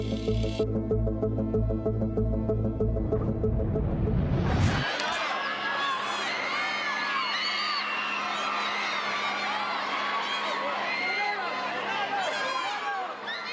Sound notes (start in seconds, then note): 0.0 tense music; 4.8 crowd scream; 4.8 crowd yell